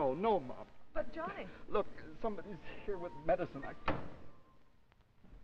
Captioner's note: sound of phone hanging up